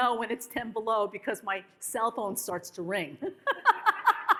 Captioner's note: laughs